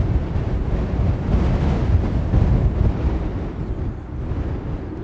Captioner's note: wind blowing